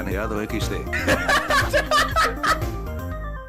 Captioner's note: sounds of a Peruvian streamer laughing